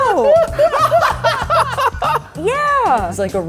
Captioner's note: laughter